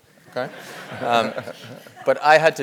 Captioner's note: laugh